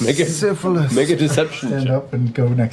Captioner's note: laughing